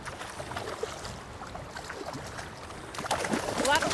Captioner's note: water splashing